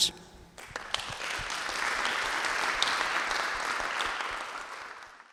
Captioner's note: audience applauding